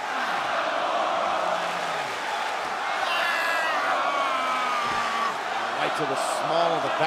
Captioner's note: crowd cheering